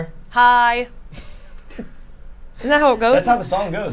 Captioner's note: laughs